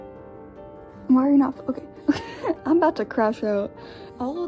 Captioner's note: laughing